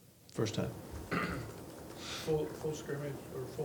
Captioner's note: person coughs